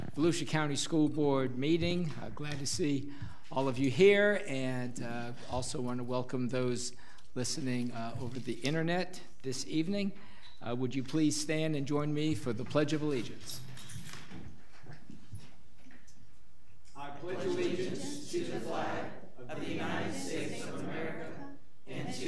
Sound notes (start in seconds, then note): 17.2 crowd